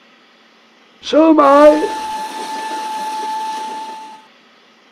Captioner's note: whistle